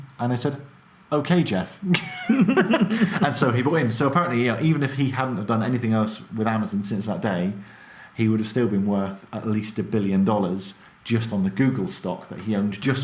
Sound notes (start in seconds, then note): 1.9 both laugh